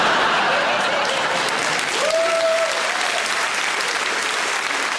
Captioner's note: audience laughing; audience applauds